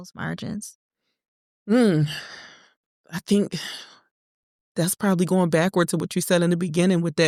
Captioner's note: deep Sigh